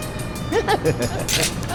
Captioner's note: laughter